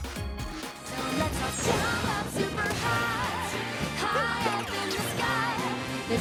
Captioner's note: Super Mario Odyssey sounds